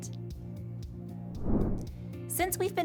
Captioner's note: air whooshing